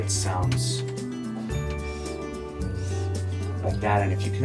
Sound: huffs

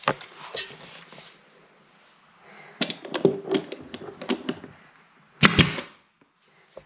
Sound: nailing sound

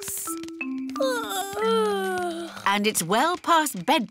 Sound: yawning

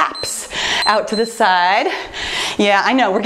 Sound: timer beeps

